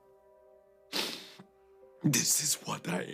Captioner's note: Radovan sniffles